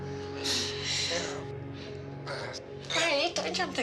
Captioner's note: laughs